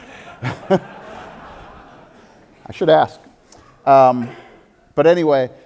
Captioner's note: audience laughter